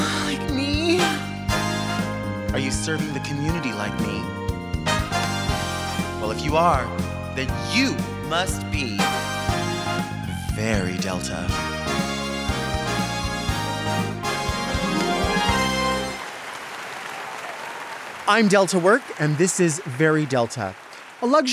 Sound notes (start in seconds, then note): 1.4 bright music; 4.8 bright music; 12.1 bright music; 16.3 audience applauds